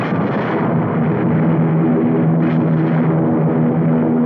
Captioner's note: engines roaring